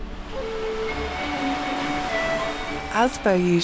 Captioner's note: water rushing